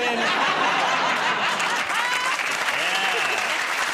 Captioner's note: applause